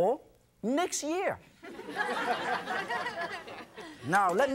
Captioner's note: audience laughs